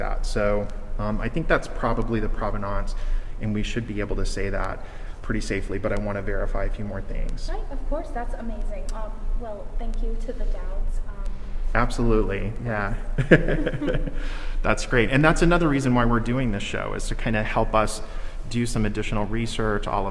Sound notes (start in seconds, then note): 13.1 laughs